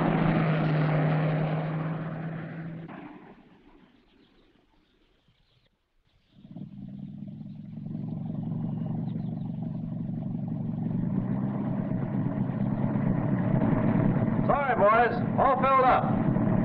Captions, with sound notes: (jalopy rumbling) - Sorry, boys, all filled up.